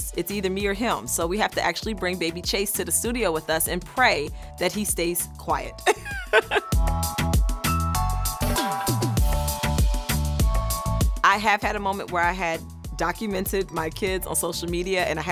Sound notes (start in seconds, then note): 5.8 bright music; 5.8 laughs